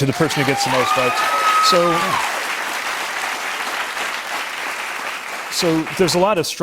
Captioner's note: cheers and applause